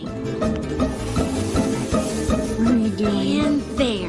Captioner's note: upbeat music; chalk scratching